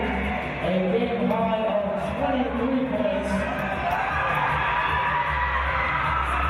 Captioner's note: cheering